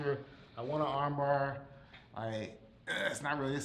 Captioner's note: grunts